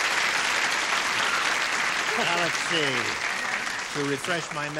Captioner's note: cheering